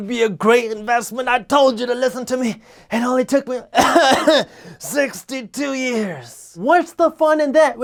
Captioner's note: coughing